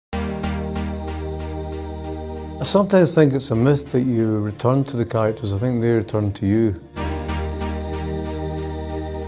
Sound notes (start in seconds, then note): 0.0 soft music; 2.5 Welsh; 7.5 soft music